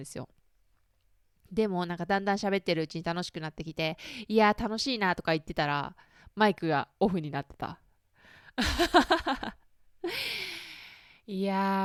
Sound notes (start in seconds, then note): 8.6 laughs